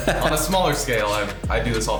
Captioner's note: laughing